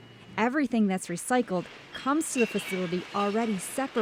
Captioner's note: machine whirring